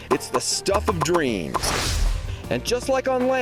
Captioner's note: popping